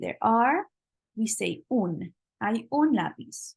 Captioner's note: spanish